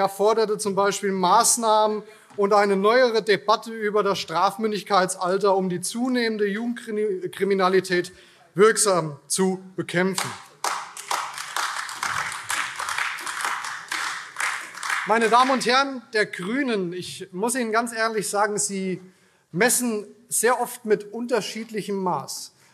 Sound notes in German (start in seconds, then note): 12.2 Beifall AfD - Zuruf BÜNDNIS 90/DIE GRÜNEN: Das ist trotzdem falsch!